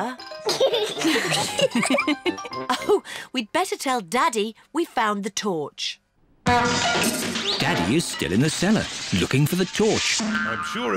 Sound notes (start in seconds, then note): 0.7 all laugh; 6.4 crashing